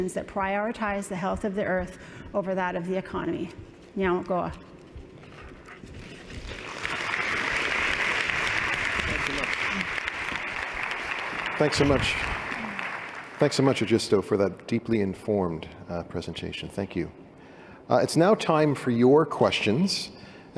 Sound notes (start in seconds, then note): 4.0 non-english; 6.0 applause